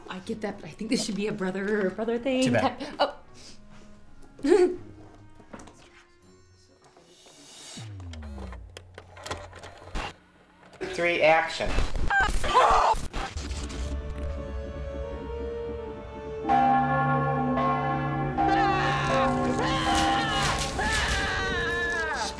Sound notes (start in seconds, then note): 12.9 static; 16.5 bell rings; 18.5 scream